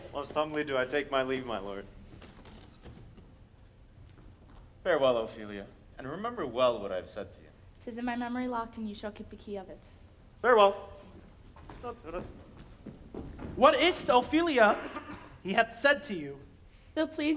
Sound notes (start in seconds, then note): 12.1 hums